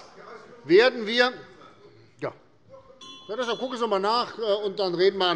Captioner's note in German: Unruhe - Glockenzeichen des Präsidenten